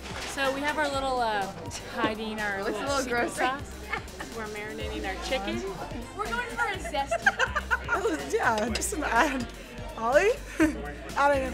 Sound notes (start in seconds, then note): 4.2 laughs; 8.0 laughs